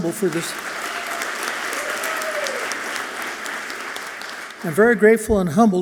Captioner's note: audience clapping and cheering loudly